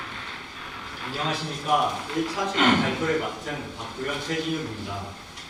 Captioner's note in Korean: 목을 가다듬음